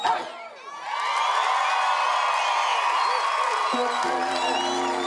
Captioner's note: cheering